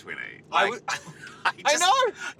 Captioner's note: laughing